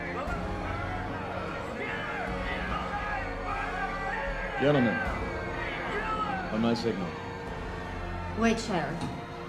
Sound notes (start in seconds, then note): 0.9 crowd yelling